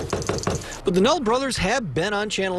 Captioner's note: door knock/